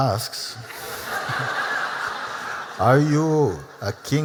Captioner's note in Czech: Smích